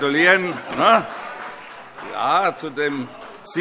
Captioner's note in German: Vereinzelter Beifall - Zurufe: Nein!